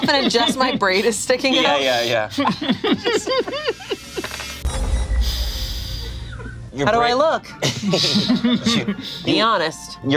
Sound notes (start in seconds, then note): 2.8 laughing; 7.5 group laughs